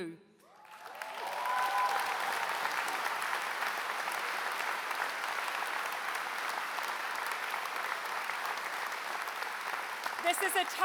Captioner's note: applause